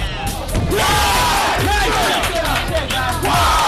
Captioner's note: cheering